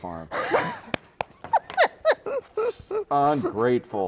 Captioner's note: laughing